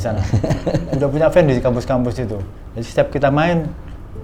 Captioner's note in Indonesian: tertawa